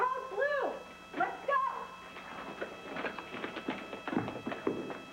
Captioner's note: alarm sounds